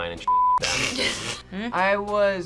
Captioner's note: group laughs